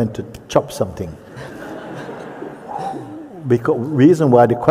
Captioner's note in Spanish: risas